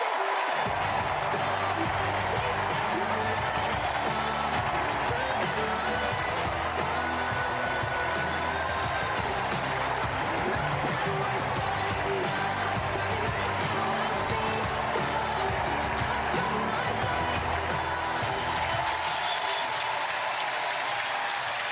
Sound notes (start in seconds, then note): 5.5 applause